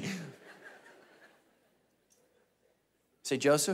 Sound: mischievous laughing; congregation laughing

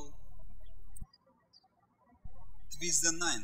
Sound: birds chirping

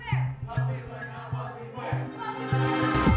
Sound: crowd

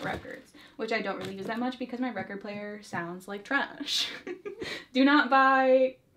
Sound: laughs

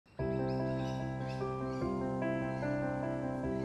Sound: birdsong; peaceful music

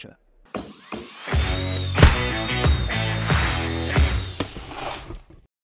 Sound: tools whirring; rock music

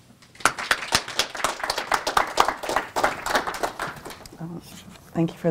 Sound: applause

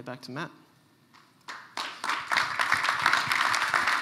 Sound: applause

